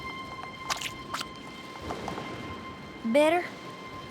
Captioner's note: glop!